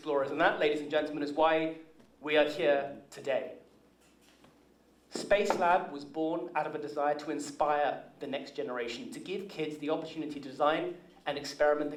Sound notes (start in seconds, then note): none